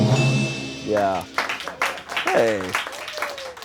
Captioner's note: bell dings; audience applauds